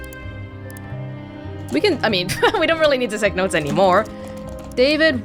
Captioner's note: chuckles